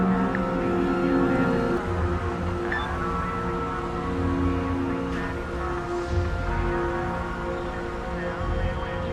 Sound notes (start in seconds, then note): 2.7 phone bleeps